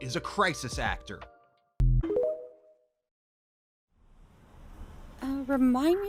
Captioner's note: city and police ambience fades back in; Tiktok end sound